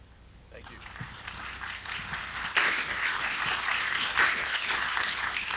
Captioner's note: audience applauding